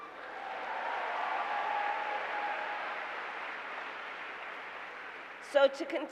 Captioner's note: applause